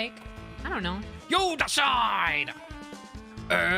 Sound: Epic Rap Battle Voice

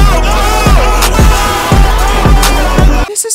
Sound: airhorn

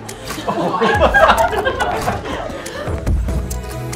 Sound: crowd laughter

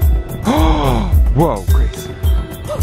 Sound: gasp

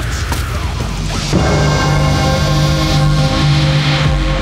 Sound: bell ringing

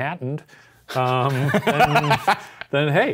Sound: laughing

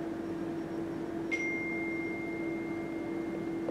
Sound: chime

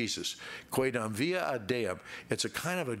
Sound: speaking in Latin

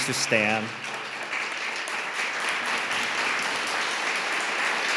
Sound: audience applauding

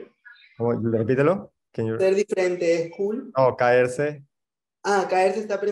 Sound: conversing in foreign language

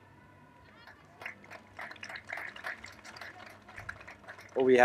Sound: applause

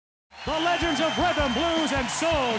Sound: cheering; voiceover

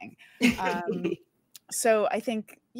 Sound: laughs

